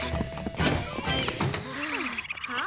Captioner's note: kids panting; chirping